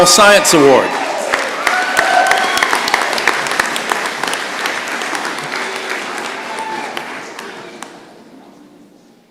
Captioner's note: cheering and applause